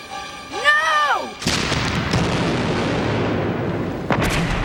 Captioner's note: explosion booms